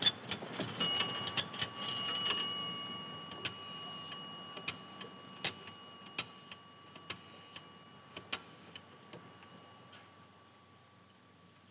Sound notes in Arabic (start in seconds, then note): 4.7 طقطقة القرص